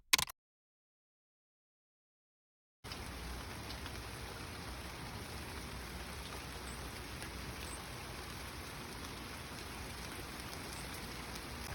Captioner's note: sounds of rain, birds chirping